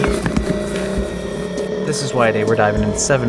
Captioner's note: monstrous growl